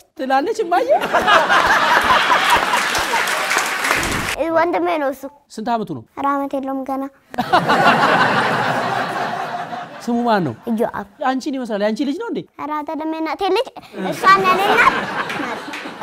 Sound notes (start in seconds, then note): 0.9 laughter and applause; 7.3 laughter; 13.9 laughter